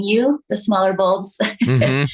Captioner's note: chuckles